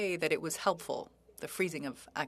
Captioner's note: speaking French